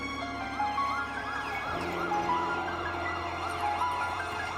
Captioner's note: sirens wailing